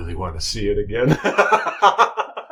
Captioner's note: laughter